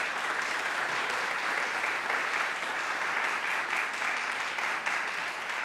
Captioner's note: audience applauding